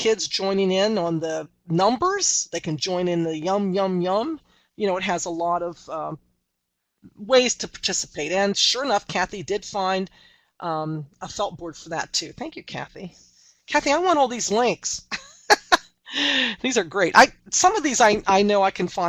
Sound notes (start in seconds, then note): 15.1 laughter